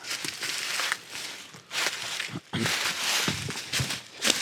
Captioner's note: leaves crunching